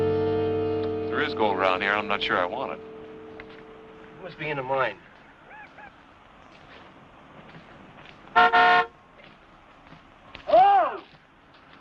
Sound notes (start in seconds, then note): 8.3 horn honks